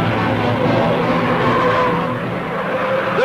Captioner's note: car engine revving; tires screeching